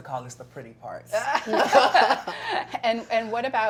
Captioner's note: laughter